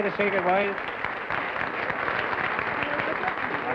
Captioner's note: applause